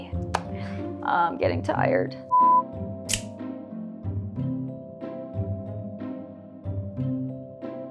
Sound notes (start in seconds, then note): 3.1 snip!